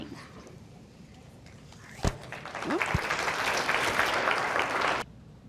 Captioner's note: audience applauding